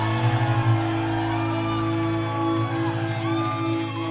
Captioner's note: audience cheering